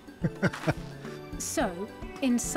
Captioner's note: laughs